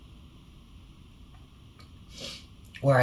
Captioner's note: sniffles